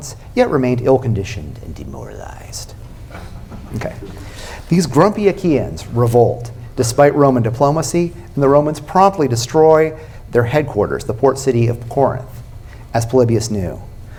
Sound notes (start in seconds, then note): 1.8 spooky voice; 3.1 laughter